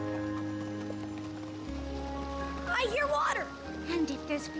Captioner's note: water babbling